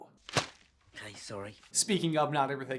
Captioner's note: thwap